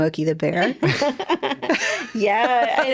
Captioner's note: both laughing